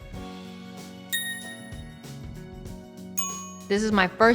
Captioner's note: phone dinging